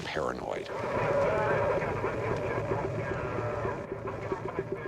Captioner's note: chatter on radio